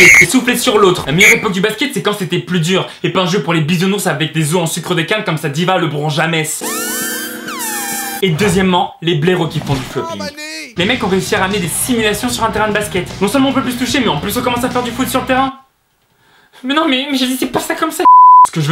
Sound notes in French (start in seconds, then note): 0.0 coup de sifflet; 6.6 Kill Bill signature alert sound